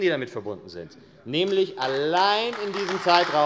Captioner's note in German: Beifall AfD